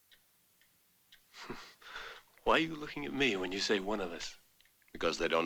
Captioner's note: chuckles